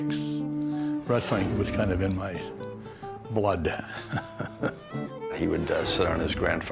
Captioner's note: chuckles